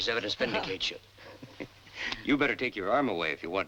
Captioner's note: Rose and Zachery chuckling